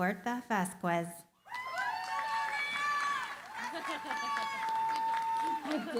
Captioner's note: cheering, applause